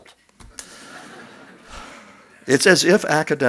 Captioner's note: laughs